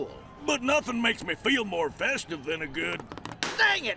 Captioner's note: squeezes balloon until it pops